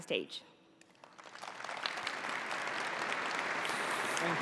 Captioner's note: applause